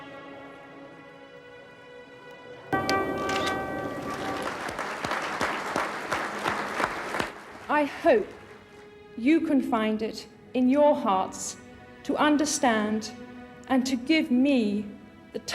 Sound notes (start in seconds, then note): 2.9 applause; 3.2 camera shutters